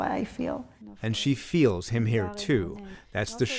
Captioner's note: voice-over